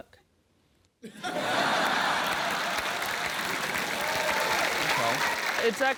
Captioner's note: applause